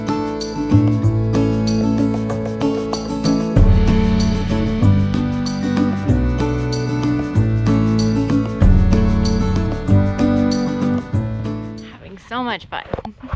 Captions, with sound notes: [wind blowing] Having so much fun.